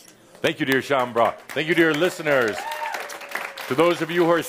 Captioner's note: applause